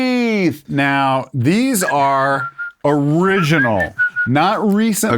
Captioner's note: whistling